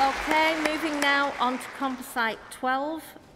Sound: cheering & Applause

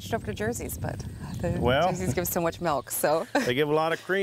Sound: laughs

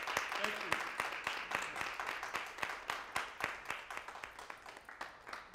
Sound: applause

